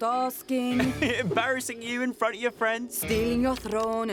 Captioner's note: chuckling